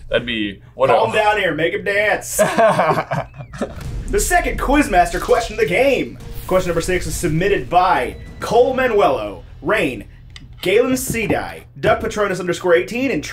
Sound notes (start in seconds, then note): 2.3 laughing